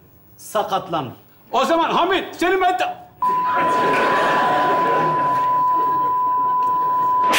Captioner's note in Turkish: bip